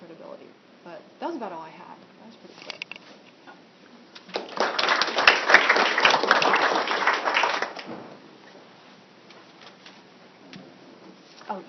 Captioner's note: applause